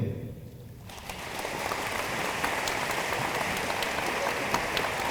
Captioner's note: room applauds